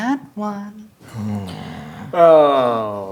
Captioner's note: players groan